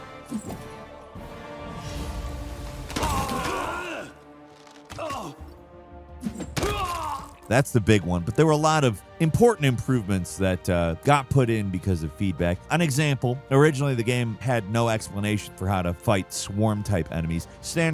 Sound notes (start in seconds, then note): 2.9 people groaning